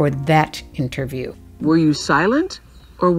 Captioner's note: soundbite of archived recording